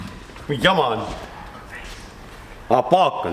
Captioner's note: whispers